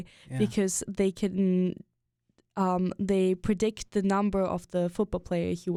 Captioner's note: none